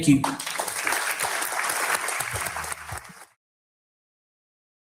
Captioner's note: audience clapping